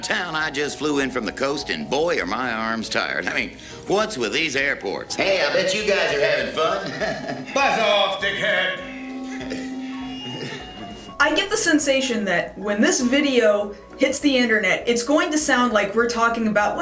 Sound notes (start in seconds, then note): 6.8 chuckles awkwardly; 8.8 microphone static